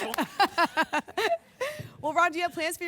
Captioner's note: laughs